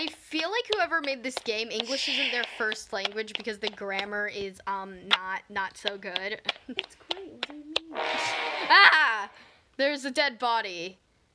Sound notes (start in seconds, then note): 7.9 loud noise comes from game